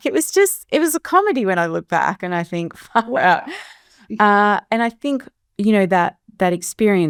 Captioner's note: chuckles